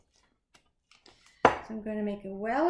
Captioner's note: chopping